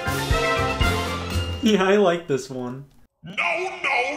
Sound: giggles

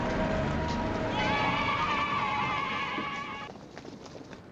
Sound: children cheering

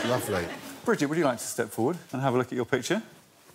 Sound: laughter

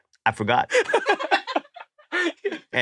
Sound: laugh

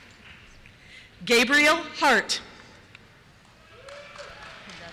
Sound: cheers

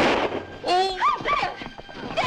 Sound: groans

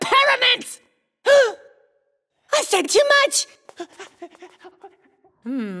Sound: gasps

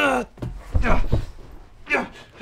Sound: thud

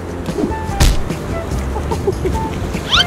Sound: funny hitting sound; laughing

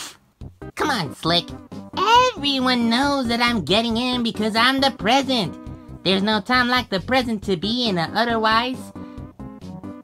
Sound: pfft

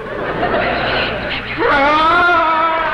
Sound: crowd laughs; man whispers; yells

